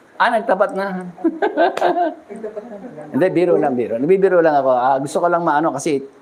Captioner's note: laughter